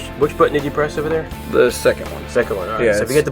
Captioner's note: voiceover